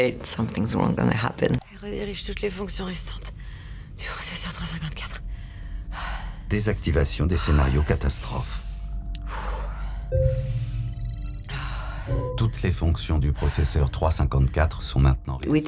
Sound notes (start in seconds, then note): 9.3 breathing heavily